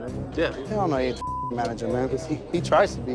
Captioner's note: beep